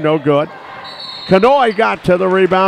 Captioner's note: whistle blows